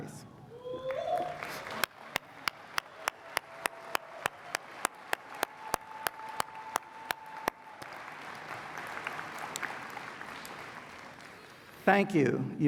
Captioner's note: applause